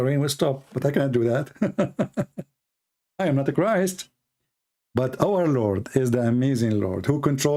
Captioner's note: Ketawa